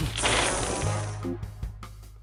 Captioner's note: blowing; ice hissing